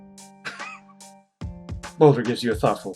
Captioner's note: laughs softly